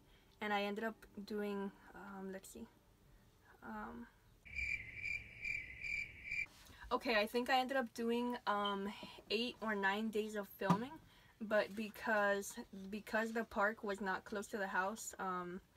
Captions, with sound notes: and I ended up doing, uhh, let's see... (crickets chirping) Ok, I think I ended up doing 8 or 9 days of filming? But because the park was not close to the house,